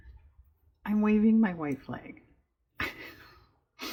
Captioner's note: laughs